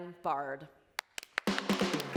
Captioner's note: applause